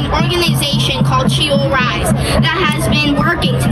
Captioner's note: crowd cheering